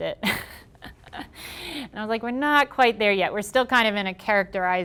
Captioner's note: laughing